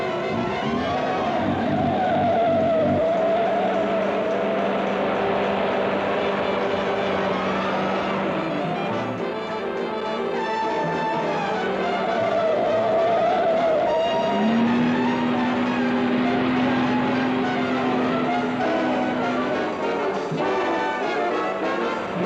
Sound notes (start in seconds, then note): 0.1 suspenseful jazz music; 0.1 tires squeal; 5.4 suspenseful jazz music; 12.1 tires squeal; 14.2 car accelerates; 14.2 suspenseful jazz music; 22.0 car accelerates; 22.0 suspenseful jazz music